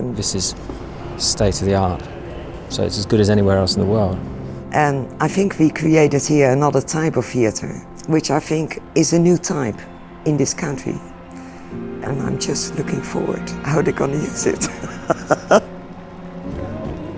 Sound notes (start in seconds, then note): 14.6 laughs